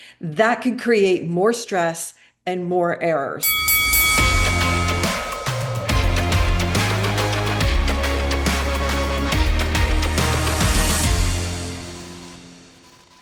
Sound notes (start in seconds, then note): 3.4 bell dinging; 4.8 upbeat music